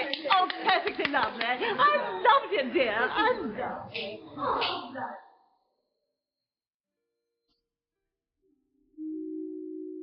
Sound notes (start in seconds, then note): 0.0 women clapping; 4.5 gentle music; 4.5 people chattering